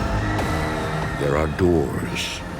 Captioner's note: screaming